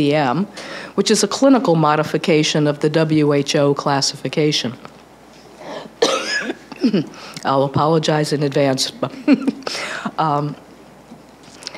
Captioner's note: laughs